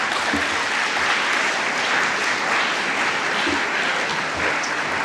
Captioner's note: audience applauding